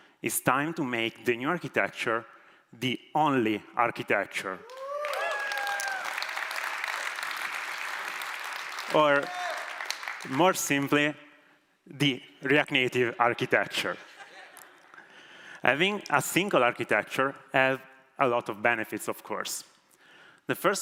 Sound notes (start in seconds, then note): 4.6 applause